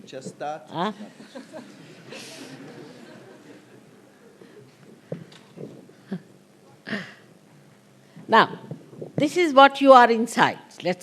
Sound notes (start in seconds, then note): 3.1 laughter